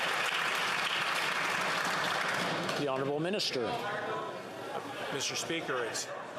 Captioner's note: some Applause